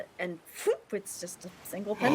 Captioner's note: mimics whooshing